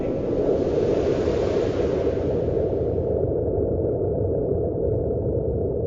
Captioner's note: warped water pattering